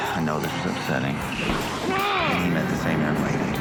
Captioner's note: yells